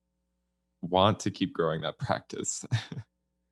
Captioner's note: laughs